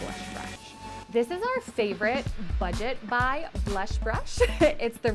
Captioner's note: laughs